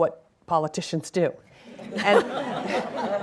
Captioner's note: laughing